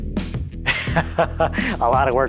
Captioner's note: laughs